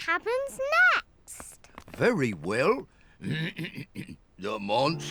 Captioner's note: clears throat